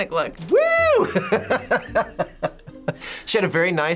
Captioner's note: laughing